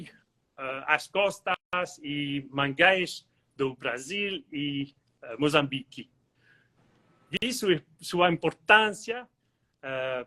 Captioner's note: speaks Portugese